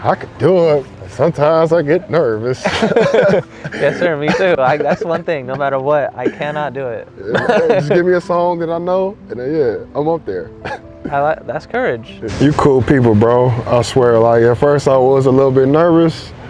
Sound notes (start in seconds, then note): 2.6 both chuckle